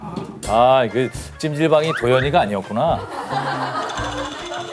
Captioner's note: scratching